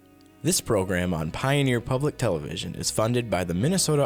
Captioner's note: voiceover